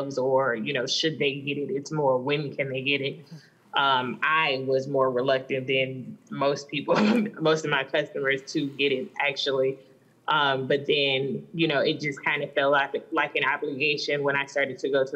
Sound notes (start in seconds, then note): 6.9 laughs